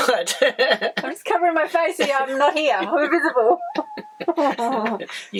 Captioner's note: laughter